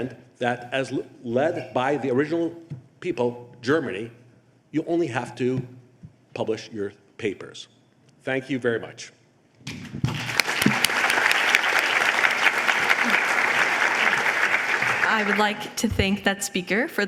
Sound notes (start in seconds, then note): 10.0 applause